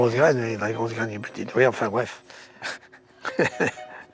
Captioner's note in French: rires